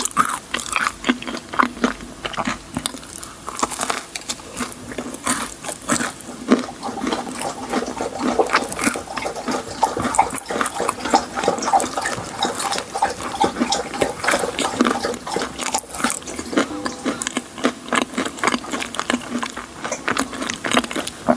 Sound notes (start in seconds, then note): 10.5 puppy drinking water again